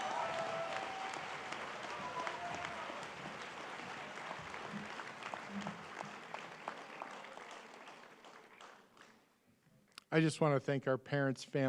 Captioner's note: applause